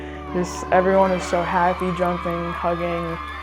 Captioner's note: team cheering